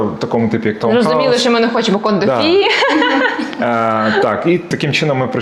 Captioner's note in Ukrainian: сміх